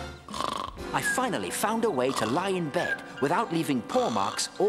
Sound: snoring

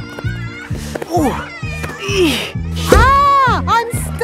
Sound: grunting

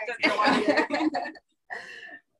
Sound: laughs

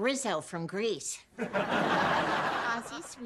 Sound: audience laughing

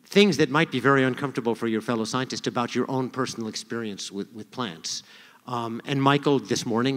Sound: none

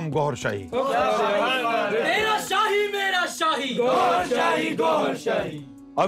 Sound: Audience raising slogans in favour of HDE Gohar Shahi

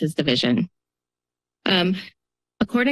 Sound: pause

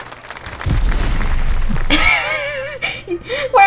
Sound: laughs

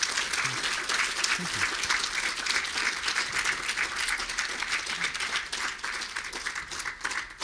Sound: audience applauding

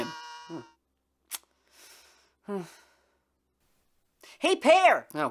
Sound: sighs

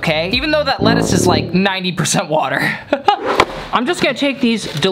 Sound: laughing

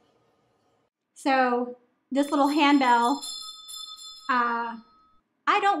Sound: bell ringing

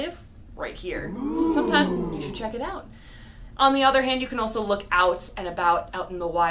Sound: crowd oohs

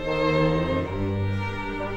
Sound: none

